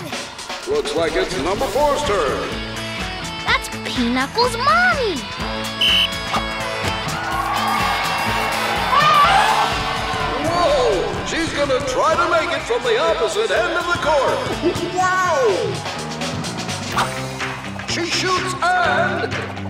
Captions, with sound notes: Looks like it's number four's turn! That's Peaknuckle's mommy! [blows whistle] [elephant horn] Whoa, she's gonna try to make t from the opposite end of the court! Wow! She shoots and...